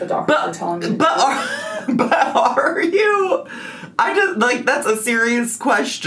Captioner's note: laughs